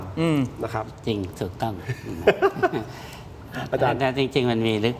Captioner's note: laughs